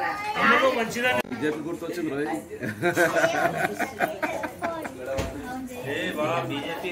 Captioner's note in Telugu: నవ్వు